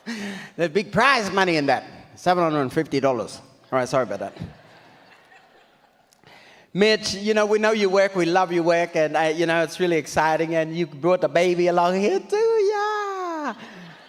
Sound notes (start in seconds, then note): 4.0 audience laughs